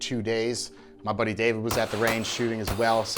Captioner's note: gunshots bang repeatedly